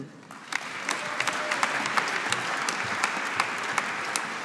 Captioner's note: audience applauding